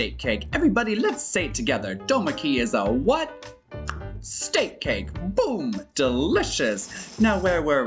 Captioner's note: tongue pop